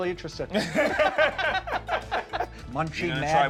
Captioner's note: both laughing